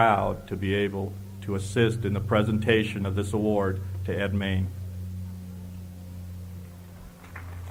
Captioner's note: applause